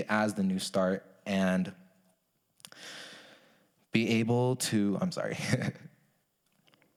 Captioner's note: chuckles